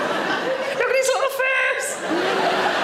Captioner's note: audience laughing